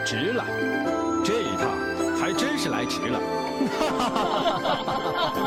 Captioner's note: laughter